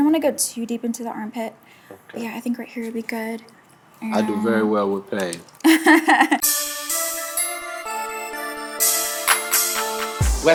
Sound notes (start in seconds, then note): 5.6 laughs; 6.8 chill hip-hop music